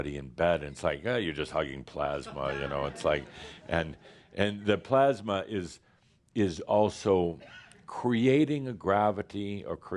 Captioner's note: some chuckles